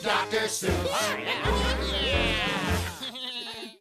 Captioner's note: all chattering